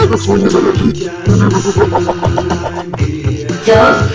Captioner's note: laugh